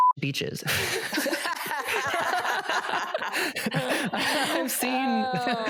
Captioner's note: laugh